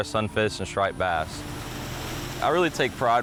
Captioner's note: water rushing